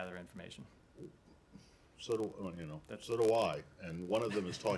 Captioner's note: laughter